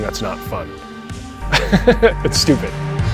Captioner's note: laughs